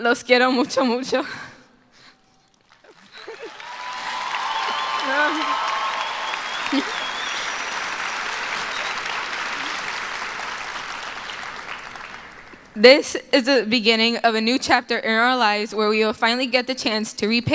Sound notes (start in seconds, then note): 12.8 cheering and applause; 12.8 applause